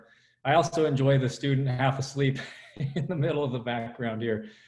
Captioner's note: laughs